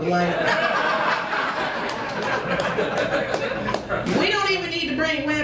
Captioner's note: crowd laughs